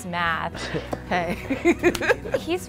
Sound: laughs

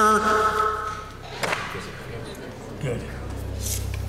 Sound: whispering

